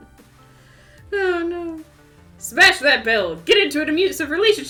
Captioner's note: giggling